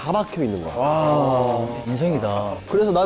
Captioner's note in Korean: 감탄